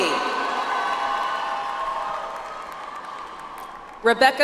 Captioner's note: audience applauds